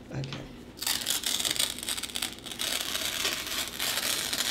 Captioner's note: tearing paper